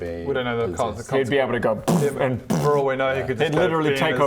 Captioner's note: boof